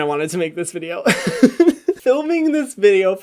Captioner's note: laughing